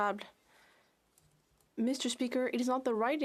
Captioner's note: speaking French